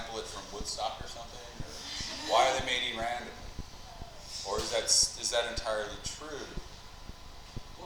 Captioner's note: class laughter